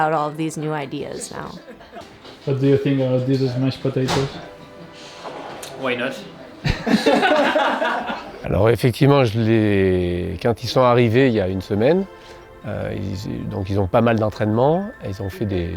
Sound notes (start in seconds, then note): 6.6 everyone laughs